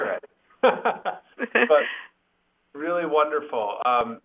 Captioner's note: laughing